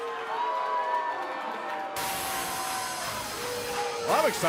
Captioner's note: cheers & boos